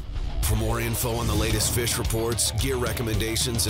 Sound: voiceover

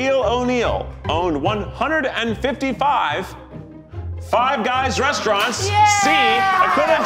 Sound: cheer

